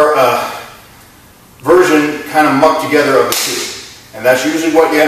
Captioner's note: clap